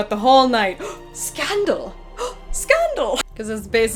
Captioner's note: gasp